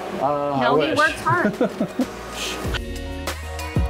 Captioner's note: giggles